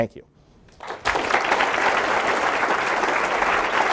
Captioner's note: applause